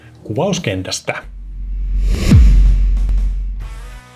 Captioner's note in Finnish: siirtymä-äänitehoste